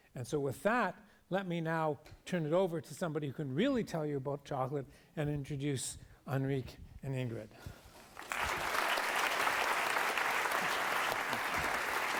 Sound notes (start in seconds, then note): 8.0 applause